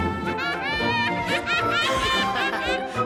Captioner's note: molly laughing